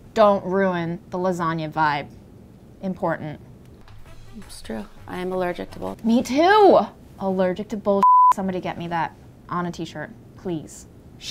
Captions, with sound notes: - Don't ruin the lasagna vibe, important. - It's true, I am allergic to bull-- - Me too, "Allergic to bull (beep)," somebody get me that on a t-shirt please.